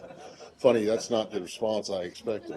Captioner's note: laughter